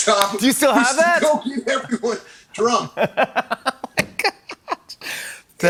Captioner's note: laughing